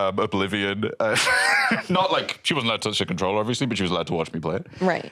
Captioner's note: laughs